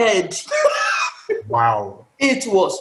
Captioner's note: laughter